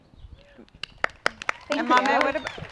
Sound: applause

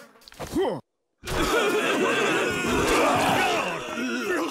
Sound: all coughing

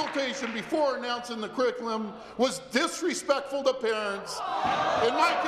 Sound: applause

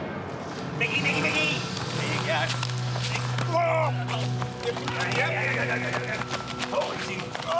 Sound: indistinct chatter, grunting, and laughing

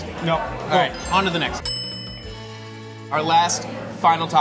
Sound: bell dings

